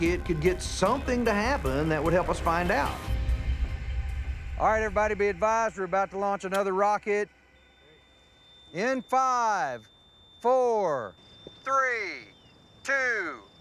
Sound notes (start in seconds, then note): 7.1 high-pitched beeping